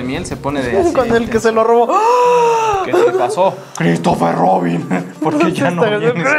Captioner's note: outrageous take of breath